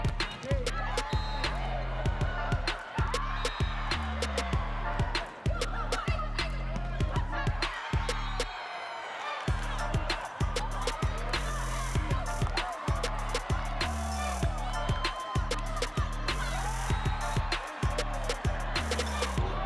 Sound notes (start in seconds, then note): 0.0 cheering; 0.0 upbeat music; 2.6 applause; 2.6 cheering; 9.0 upbeat music; 16.3 cheering